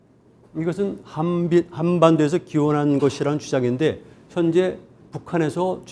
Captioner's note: speaking in Korean